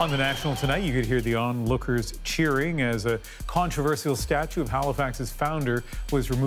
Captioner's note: cheering